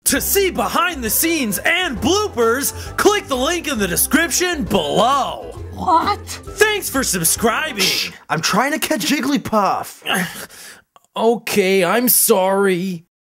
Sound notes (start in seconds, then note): 10.0 scoffs